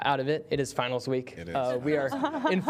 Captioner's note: laughter